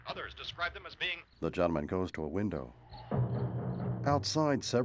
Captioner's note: crickets chirping